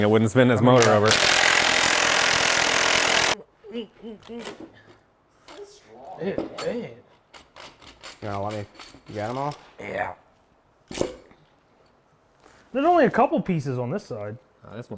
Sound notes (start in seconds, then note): 0.8 drill whirring